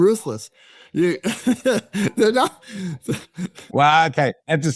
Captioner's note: laughing